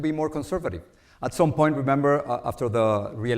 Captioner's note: none